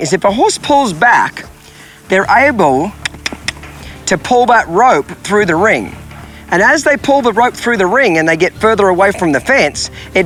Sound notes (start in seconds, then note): 2.9 mouth clicking